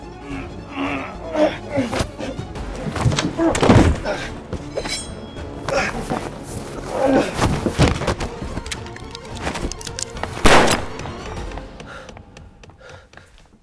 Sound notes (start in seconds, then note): 0.1 grunting; 10.4 gun sounds; 10.4 gun fires; 11.3 footsteps running away